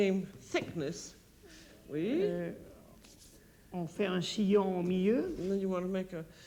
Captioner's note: speaking French